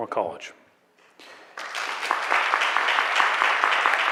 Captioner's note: applause